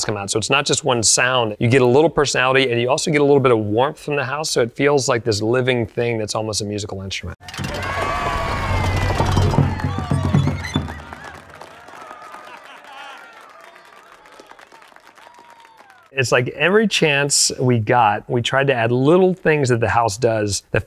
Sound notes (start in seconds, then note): 7.5 crowd cheers; 8.4 musical tones of tiles flipping; 9.9 crowd applauds; 10.2 lights move squeakily